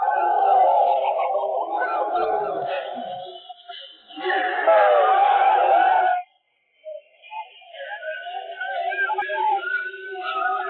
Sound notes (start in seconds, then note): 5.9 men shouting